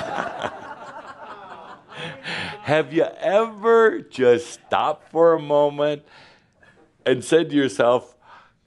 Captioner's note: laughter